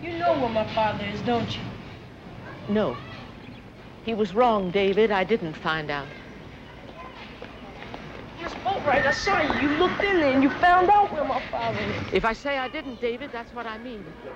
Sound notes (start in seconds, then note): none